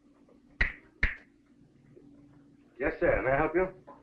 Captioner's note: Pepe snapping